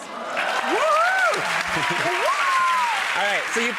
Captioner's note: crowd cheering